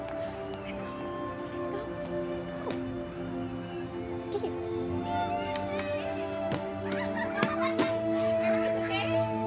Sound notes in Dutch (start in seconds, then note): 4.1 children chattering